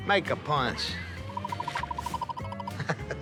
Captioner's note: radar gun beeping